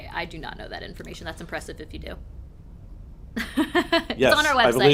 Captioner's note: laughs